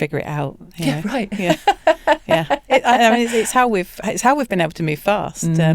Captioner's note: laughs